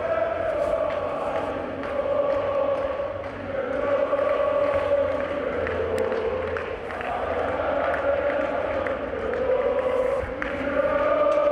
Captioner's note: applause